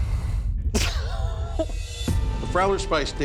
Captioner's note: laughter